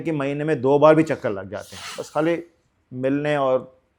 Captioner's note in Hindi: नाक से की जाने वाली आवाज़